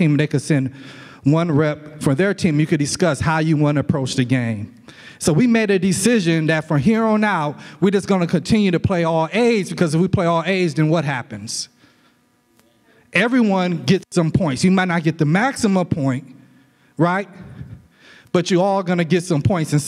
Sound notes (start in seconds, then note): none